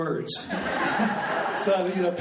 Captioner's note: laughing